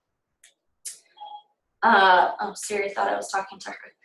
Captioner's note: iPhone Siri beeps